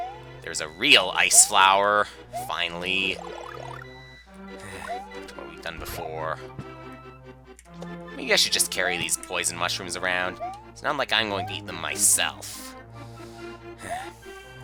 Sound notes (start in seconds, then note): 4.5 sigh; 13.7 sigh